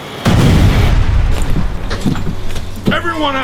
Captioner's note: explosion bangs